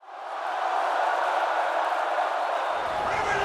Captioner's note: crowd cheering